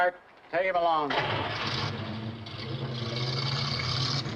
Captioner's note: engine revs